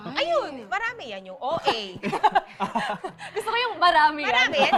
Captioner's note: laughter